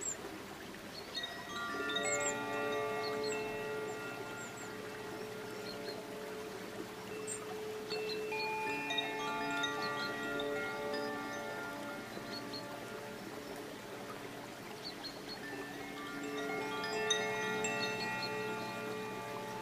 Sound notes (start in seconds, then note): 1.4 bells lightly chiming; 1.4 water babbling